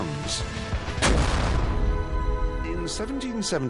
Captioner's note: gunshot